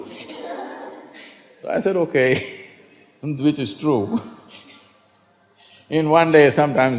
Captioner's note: laughs